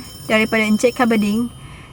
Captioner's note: phone ringing sound effect